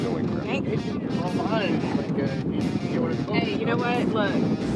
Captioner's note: fisherman speaking softly